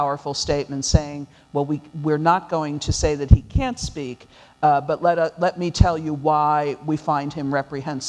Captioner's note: none